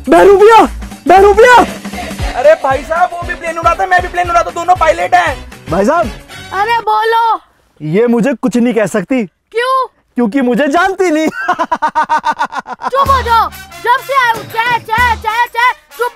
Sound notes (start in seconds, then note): 11.2 laughing